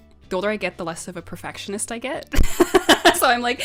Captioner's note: laughs